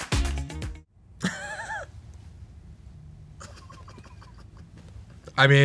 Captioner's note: Awkwafina laughs